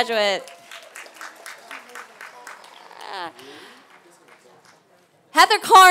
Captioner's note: applause